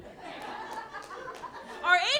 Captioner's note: laughing